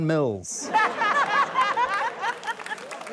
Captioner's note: laughter